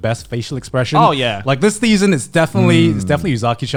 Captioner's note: laughing